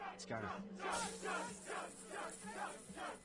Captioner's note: crowd chanting